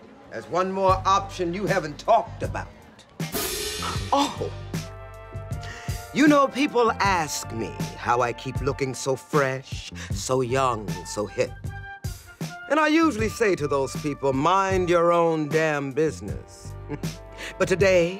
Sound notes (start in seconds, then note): 5.5 gasps; 16.7 chuckles